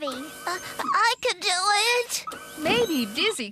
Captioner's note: straining